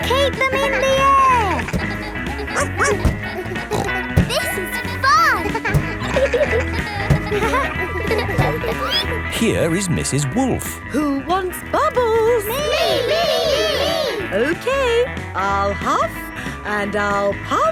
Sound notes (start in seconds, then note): 2.2 snorts; 2.5 barks